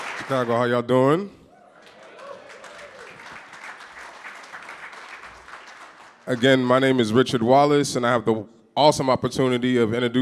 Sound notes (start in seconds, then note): 1.7 audience clapping